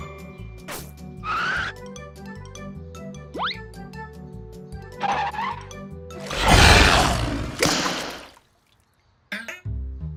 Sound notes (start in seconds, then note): 6.2 roars; 7.9 smack